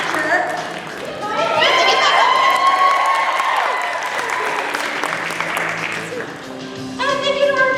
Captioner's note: cheering